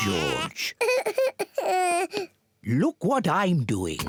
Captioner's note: cries